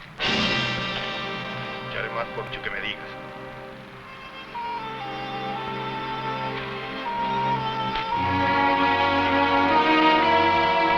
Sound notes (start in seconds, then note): 0.2 dramatic music; 2.0 people chattering; 4.1 somber music